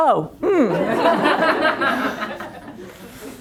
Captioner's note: laughter